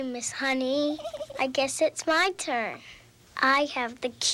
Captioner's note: giggling